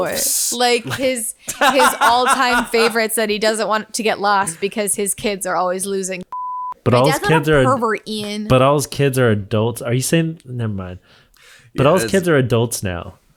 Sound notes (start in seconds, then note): 1.4 laughing; 6.3 beep